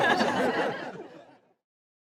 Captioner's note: all laugh